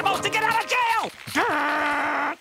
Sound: growling

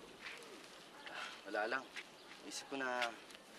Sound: sighs

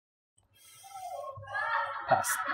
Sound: extended party noises from downstairs in the shop

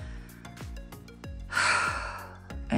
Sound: really big sigh

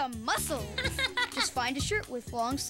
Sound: giggles

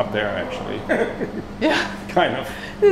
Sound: chuckles

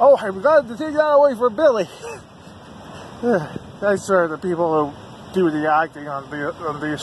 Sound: laughs

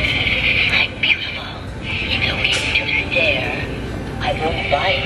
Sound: evil laughing; creepy whispering

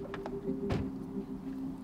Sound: car door slams shut

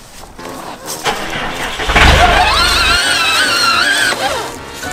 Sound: engine revs

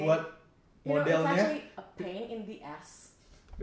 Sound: whispering

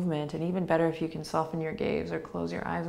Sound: none

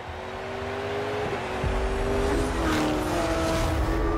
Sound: crowd cheering; engines roaring

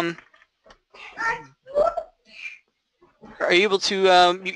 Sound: kids murmuring

